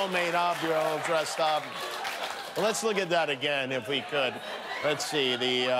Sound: laughter

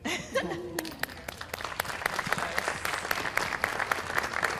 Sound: applause

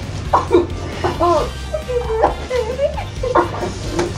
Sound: weeping

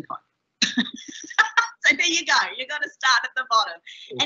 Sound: laughing

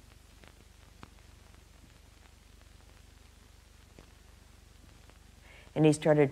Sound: vinyl crackling

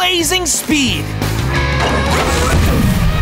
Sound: turbo turning on

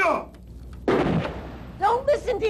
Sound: gunshot

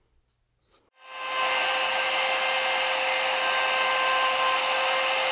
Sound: router operating

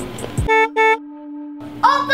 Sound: beep beep

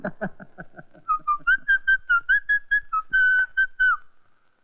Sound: whistling

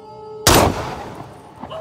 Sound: gunshot

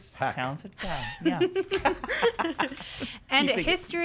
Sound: laughing

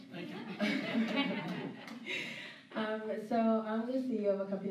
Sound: laughter

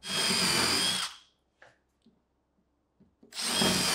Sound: drill whirring

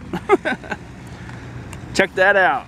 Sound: laughing

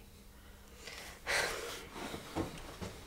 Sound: Liz sighs

